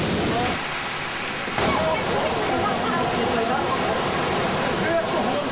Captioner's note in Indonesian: suara gelombang tsunami